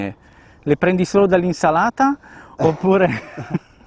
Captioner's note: laughing